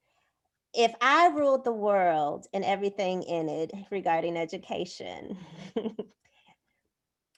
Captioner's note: laughter